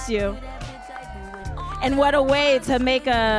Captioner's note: audience cheering and applauding